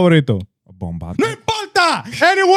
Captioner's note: speaking In Foreign Language